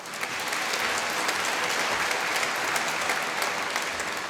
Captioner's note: applause